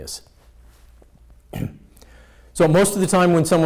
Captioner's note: clears throat